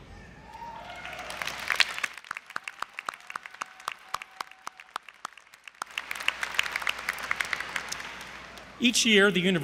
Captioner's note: applause